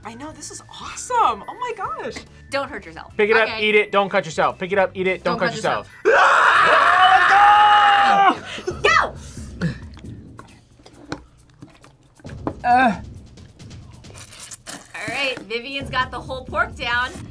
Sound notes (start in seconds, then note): 6.0 both screaming; 14.0 slurps